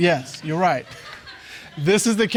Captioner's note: audience laughs